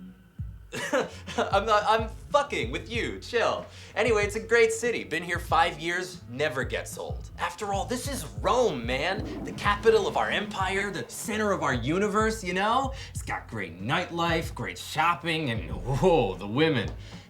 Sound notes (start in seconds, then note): 0.7 laughs; 7.8 toilet flushes